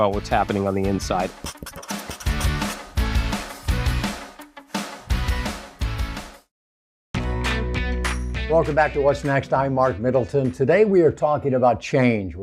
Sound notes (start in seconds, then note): 1.3 marker scribbling; 1.6 upbeat guitar music